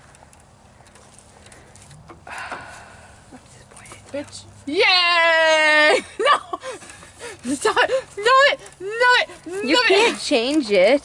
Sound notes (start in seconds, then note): 3.4 whispering